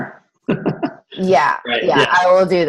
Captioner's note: laughs